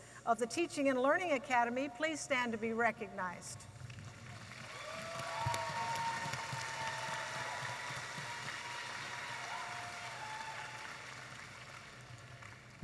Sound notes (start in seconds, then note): 3.9 audience applauding and cheering